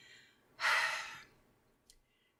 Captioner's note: sigh